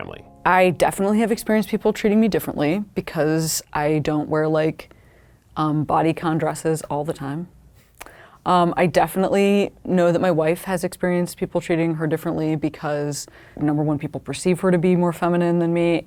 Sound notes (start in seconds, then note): none